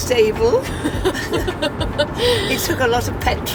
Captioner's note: laughing